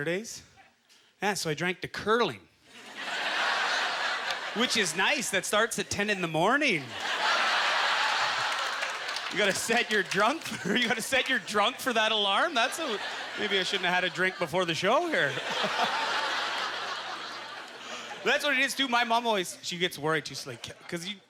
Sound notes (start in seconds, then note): 2.7 audience laughter; 7.0 audience laughter; 15.9 audience laughter